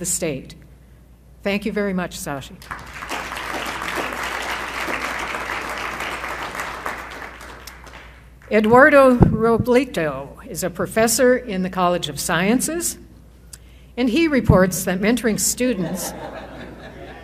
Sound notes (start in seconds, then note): 2.6 applause; 15.7 laughter